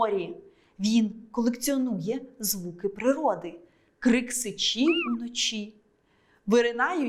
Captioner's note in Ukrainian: крик сичів уночі